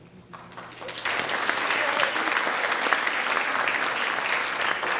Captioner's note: audience applauds